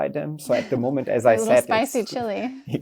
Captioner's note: host laughs